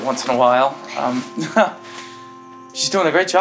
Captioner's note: laughs